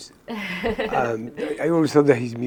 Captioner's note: chuckles